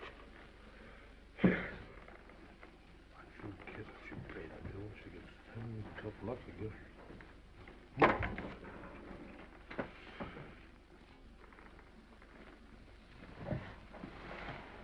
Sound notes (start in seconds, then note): 1.3 sighs